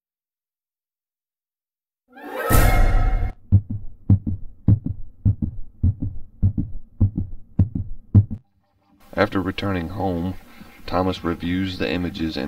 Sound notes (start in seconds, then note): 2.2 suspenseful music; 3.5 rhythmic beating